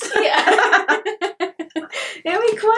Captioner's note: both laugh